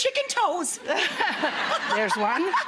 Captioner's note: audience laughs